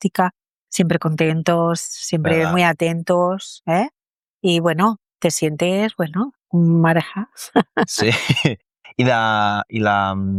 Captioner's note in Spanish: risas